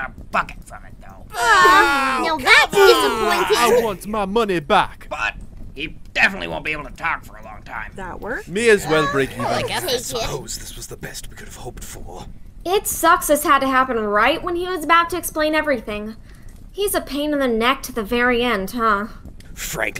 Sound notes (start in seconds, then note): 1.3 audience jeers; 8.5 audience contentment